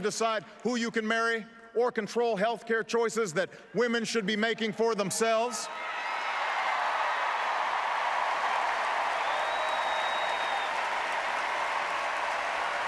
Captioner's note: applause